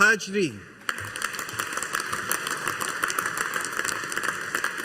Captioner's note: audience applauding